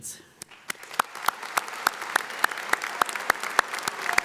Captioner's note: audience applauds